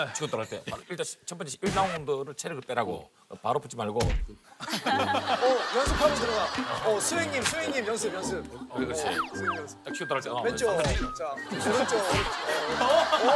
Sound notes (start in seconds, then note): 4.0 thump!; 10.8 thud!; 10.8 wham!